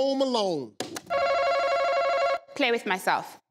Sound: machine buzzes

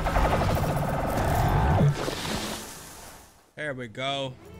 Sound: guns firing

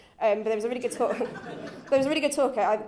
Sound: chuckles

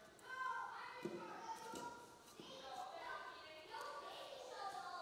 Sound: children shouting and playing

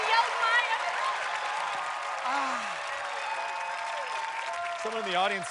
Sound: cheers and applause

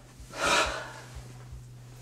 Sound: sigh

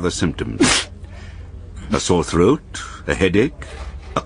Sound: sneezes

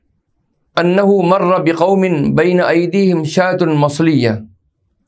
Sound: arabic

